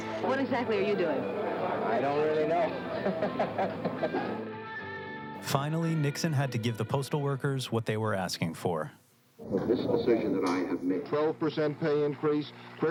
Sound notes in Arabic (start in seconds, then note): 2.8 يضحك